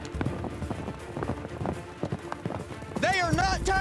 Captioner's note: hoofbeats